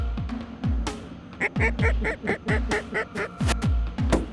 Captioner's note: duck calls; gun shot